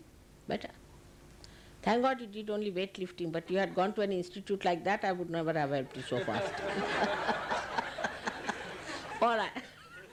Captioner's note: laughter